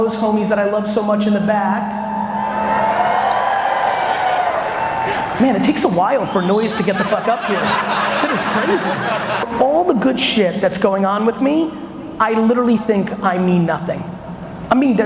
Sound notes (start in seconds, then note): 1.7 audience cheers